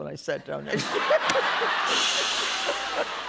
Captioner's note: laughter; rimshot